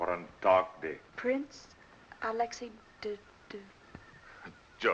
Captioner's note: stutters